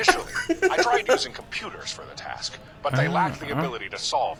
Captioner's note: laughs